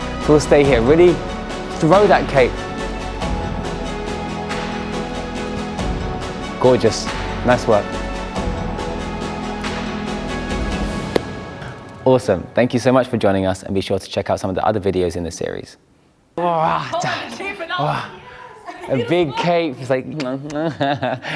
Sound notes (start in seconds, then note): 16.4 cheering, laughing